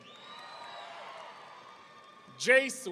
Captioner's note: audience cheering